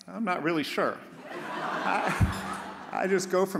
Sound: audience laughs

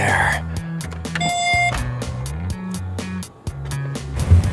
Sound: car beeps

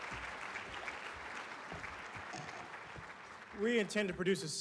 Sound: applause

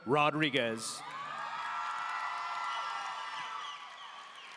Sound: audience cheering

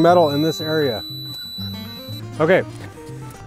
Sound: machine squeals

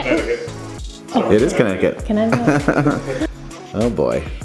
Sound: laughing

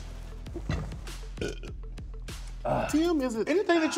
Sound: burps

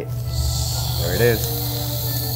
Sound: sake sizzles

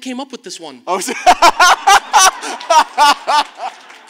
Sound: laughs

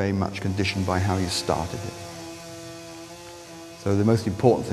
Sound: chainsaw wurring

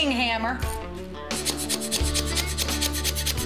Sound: hammering

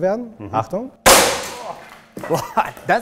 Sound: loud bang

